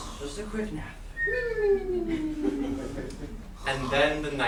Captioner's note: sailors snoring